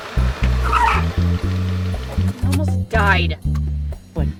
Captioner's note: tires screech